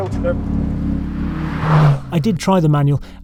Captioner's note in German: Motorgeräusche werden weiter laut